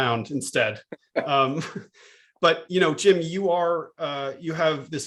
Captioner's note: laughter